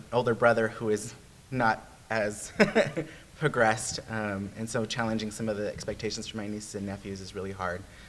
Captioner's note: laughs